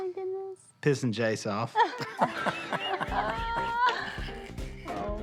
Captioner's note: laughing